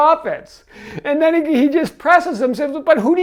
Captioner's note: laughs